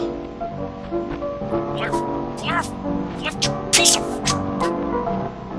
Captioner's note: quietly grunting